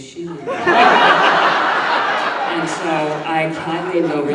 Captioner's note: audience laughing